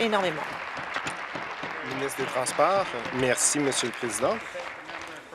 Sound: applause

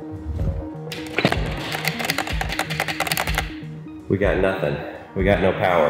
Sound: switch clicking

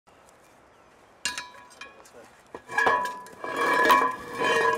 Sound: metal clanging

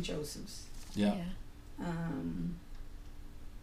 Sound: voiceover

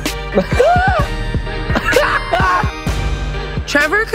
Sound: laughs

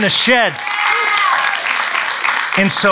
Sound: applause

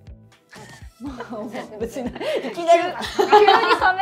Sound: laughs

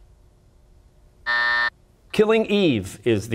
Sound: buzzer

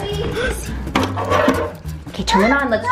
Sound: gasps

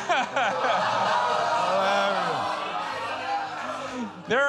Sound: laughs; audience groans

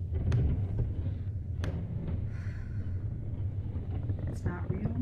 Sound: floor creaks; wood scraping against wood

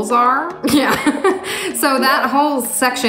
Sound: chuckling

